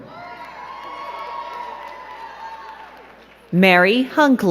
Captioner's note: crowd cheering and clapping